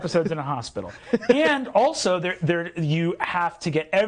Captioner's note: laughing